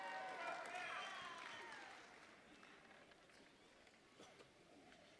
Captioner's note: audience members cheering